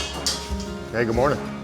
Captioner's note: metal clanking